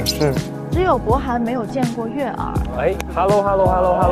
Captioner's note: stuttering